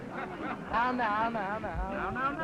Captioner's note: crowd ambience